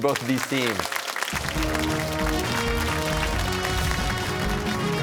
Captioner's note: cheers and applause